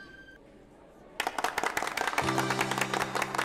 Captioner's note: clapping